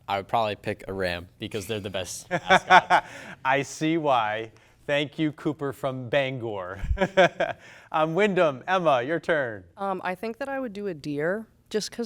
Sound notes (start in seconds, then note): 6.8 laughs